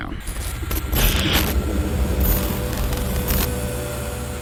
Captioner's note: glitch sound